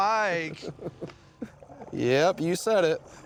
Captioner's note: chuckles